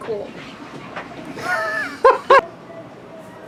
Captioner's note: laughs